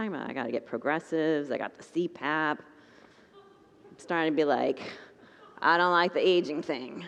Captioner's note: congregants laugh